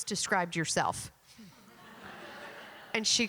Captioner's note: laughter